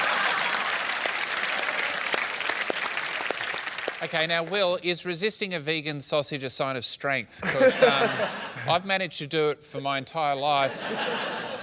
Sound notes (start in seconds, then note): 0.0 applause; 7.4 laughter